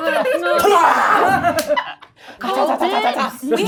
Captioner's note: loud grunting